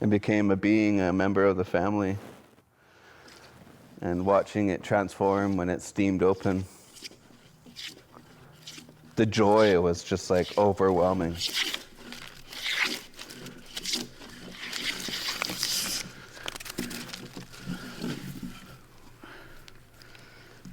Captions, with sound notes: and became a being, a member of the family. And watching it transform when it steamed open. The joy was just like overwhelming. (wood scraping)